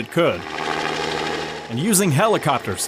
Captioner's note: helicopter rotor